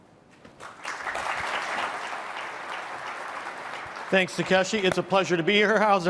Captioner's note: applause